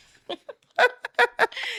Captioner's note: laughing